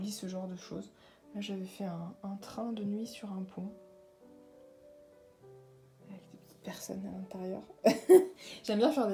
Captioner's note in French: rires